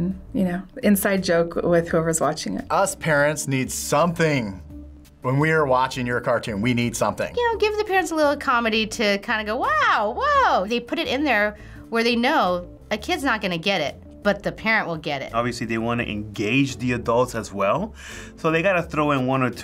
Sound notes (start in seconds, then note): none